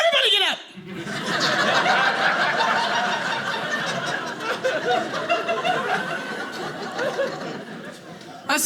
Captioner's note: audience laughing